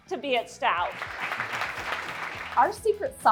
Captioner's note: people clapping